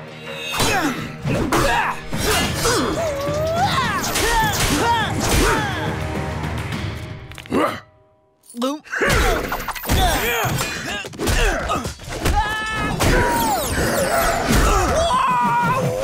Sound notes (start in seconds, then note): 1.4 grunting; 7.4 cracking, grunting; 7.9 gulping; 8.9 grunting; 13.1 grunting